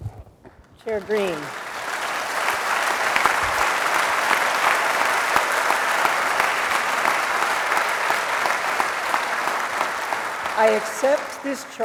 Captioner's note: applause